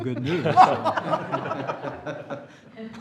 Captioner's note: laughter